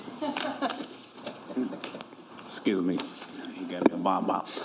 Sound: laughter

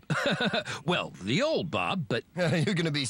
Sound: chuckles

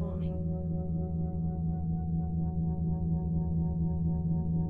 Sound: electronic humming

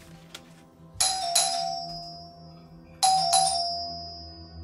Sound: doorbell rings continuously

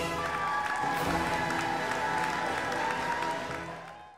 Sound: cheering audience

